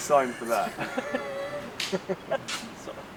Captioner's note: laughter